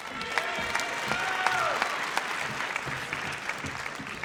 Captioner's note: audience cheers